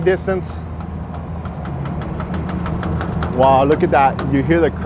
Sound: boat creaks

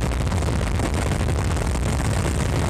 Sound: none

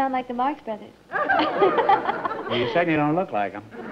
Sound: laughs

